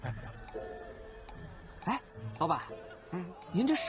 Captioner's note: the breeze blows rhythmically